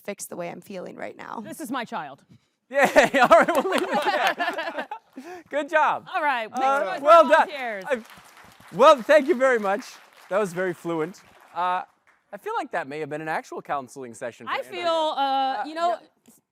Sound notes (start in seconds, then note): 2.8 laughing; 8.1 applause